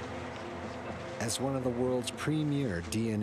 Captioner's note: voiceover